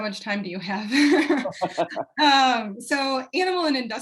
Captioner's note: laughter